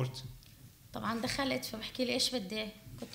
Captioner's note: speaking arabic